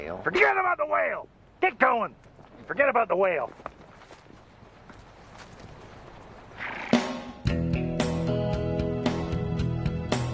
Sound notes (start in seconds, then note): 6.5 horse snorts; 7.1 relaxing music